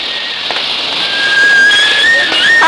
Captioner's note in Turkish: Tren garı ortam gürültüsü, tren düdüğü, mırıltılar